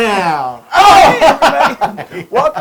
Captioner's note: laugh